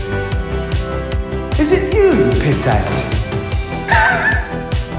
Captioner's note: dramatic dance music; laughs